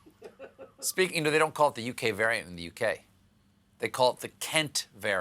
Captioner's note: laughter